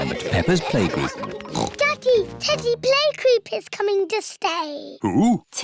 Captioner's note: oinks